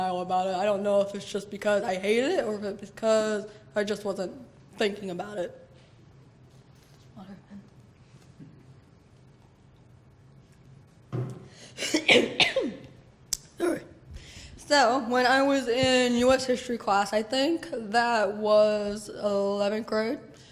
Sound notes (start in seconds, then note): 11.7 coughs